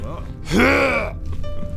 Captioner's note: hrrgh